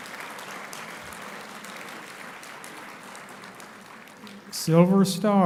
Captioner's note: applauding and cheering